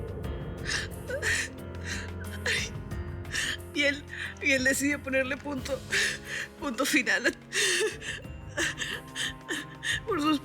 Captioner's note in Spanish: Sollozos